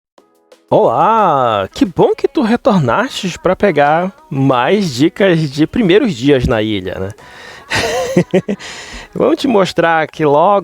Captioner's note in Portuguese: risadas